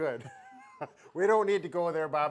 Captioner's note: laughs